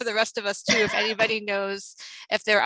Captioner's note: laughs